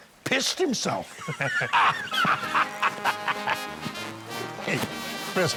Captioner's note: laughter